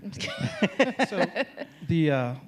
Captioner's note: laughing